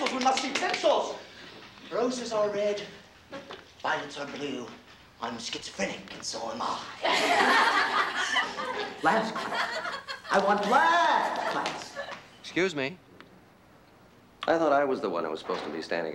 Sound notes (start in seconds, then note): 7.0 laughter